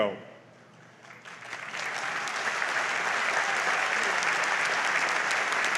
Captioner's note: audience applauds